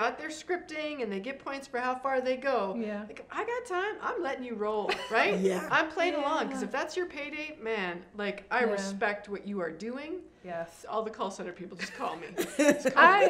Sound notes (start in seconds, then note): 4.9 chuckles; 11.8 laughs